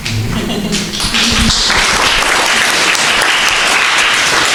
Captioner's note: crowd applauding